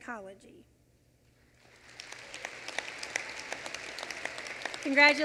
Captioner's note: applause